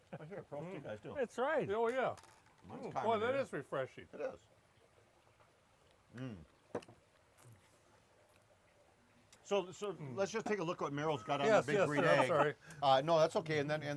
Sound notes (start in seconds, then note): 5.7 groans